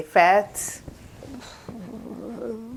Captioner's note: sighing